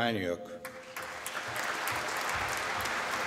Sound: applause

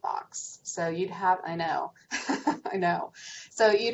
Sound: chuckles

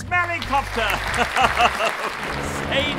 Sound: laughing

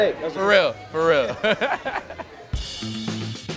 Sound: laughter; upbeat music

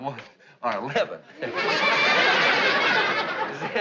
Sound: laughing

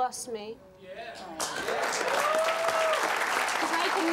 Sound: applause

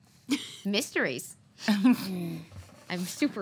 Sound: laughs

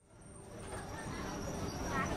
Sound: city street noise

